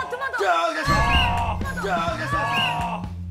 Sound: whistle

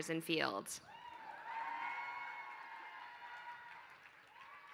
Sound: applause

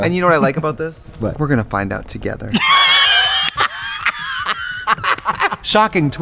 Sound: laughs

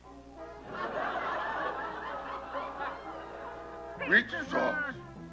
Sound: laughter

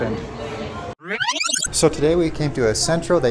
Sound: tape rewinding

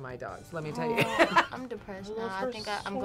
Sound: laughs

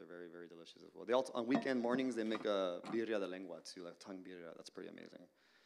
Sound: Spanish language

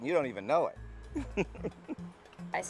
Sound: laughing

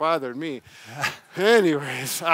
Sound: laughs

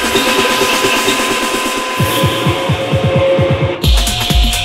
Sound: rhythmic beeping continues; high-intensity techno music

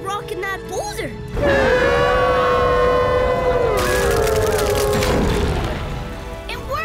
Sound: howling

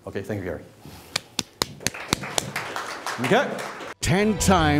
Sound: clapping

